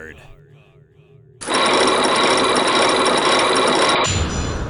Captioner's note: chains grinding!